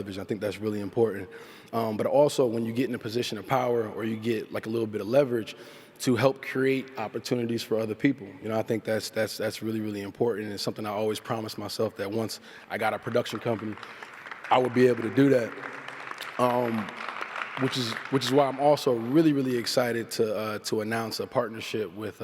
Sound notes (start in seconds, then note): 14.0 applause